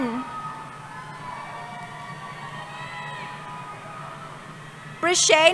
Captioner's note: cheering